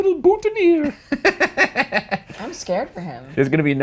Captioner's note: laughing